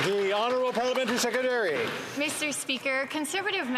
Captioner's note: some Applause